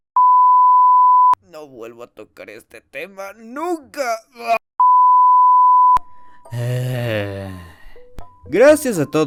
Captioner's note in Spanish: Sonidos de vomito